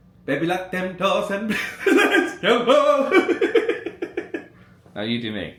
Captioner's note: laughing